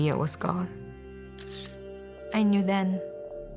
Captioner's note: camera shutter clicks